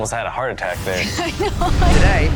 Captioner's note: laughs